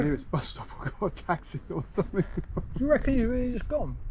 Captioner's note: laughing